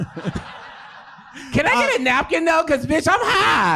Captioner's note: audience laughing